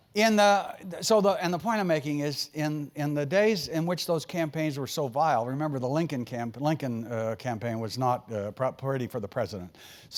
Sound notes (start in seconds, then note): none